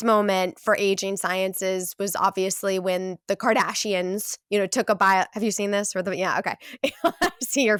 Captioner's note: laughs